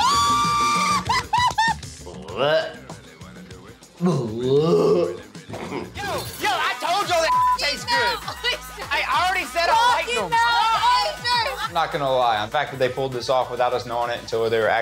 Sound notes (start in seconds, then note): 0.0 girls cackle screaming; 2.7 fake retching; 10.5 everyone yelling